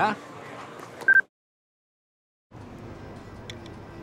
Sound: beep

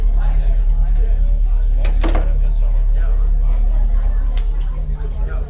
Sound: students chattering

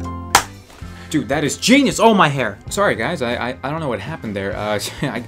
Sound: claps

